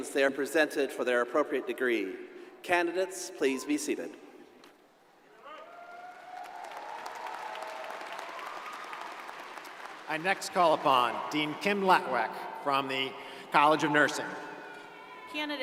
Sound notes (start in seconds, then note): 5.5 crowd applauding